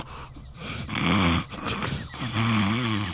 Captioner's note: snores